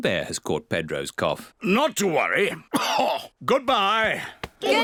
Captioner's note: coughs